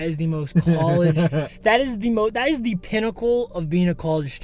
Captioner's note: Thomas laughs